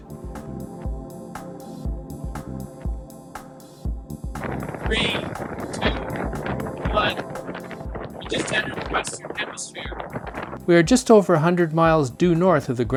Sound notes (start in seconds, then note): 0.3 upbeat music; 6.8 wind blowing